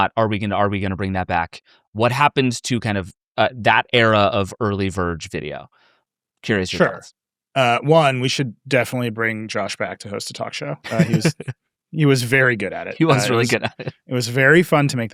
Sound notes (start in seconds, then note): 10.6 laughing